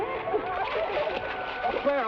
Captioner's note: water splashes